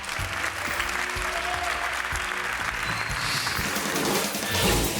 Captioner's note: crowd applauding continues; crowd applauds; crowd cheers; screen swooshes; upbeat instrumental music